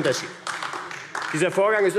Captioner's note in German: Beifall AfD